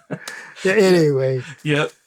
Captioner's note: laughter